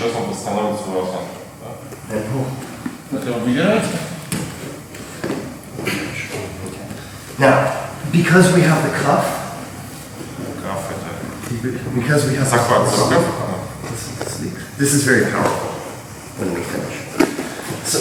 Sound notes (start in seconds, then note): 11.0 speaking in a foreign language